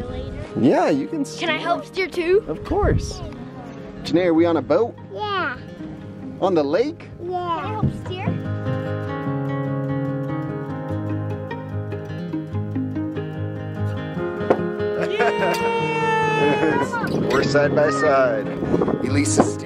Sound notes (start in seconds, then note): 9.2 acoustic guitar; 14.9 laughter